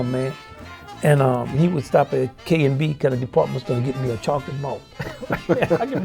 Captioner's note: laughs